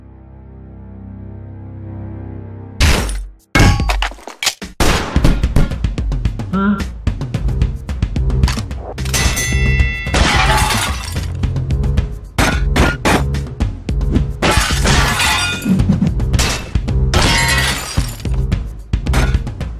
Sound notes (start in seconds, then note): 2.8 clanking, gunshot; 6.2 fight scene, dings, more fighting grunting and stuff